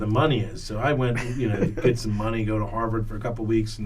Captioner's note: laughs